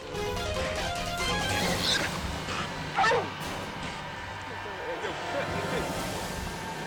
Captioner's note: dramatic music; boar squealing